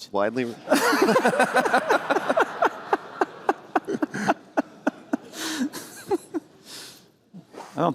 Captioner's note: laughter